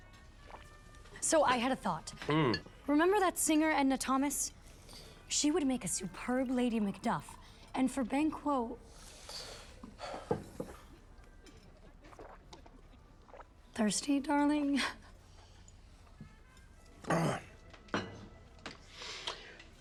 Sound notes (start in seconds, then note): 10.4 sighs; 17.0 clears throat